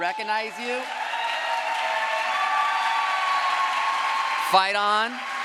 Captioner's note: crowd applause